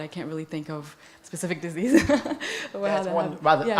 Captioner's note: laughs